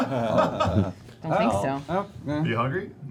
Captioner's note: laughter